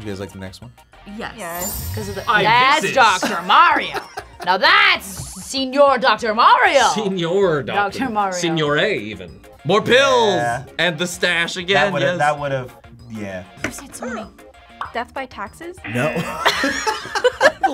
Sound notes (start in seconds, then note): 2.8 React laughs; 15.8 buzzer barks; 15.9 group laughs